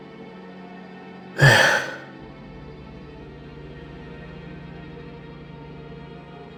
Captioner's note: sigh